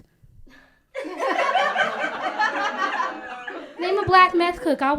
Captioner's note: laughter